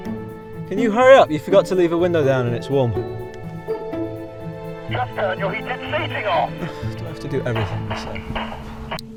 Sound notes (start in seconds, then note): 5.1 over the radio; 6.6 sighing; 7.9 gunshots over radio